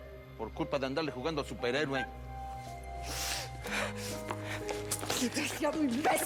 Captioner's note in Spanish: sollozos